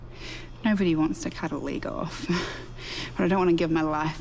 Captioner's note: chuckles softly